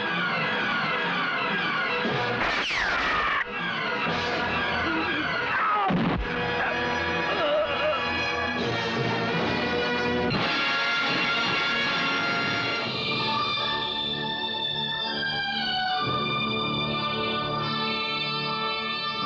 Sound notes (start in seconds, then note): 2.4 gunshot; 6.5 groans